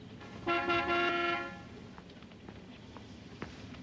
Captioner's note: horn honking